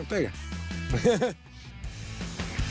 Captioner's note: laughter